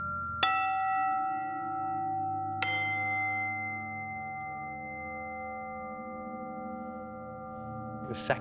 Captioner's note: high pitched chimes